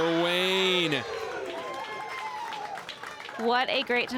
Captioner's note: crowd cheers and applauds